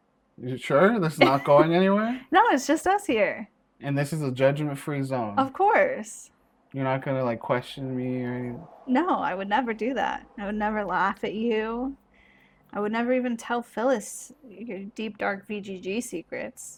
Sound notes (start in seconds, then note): 1.0 laughs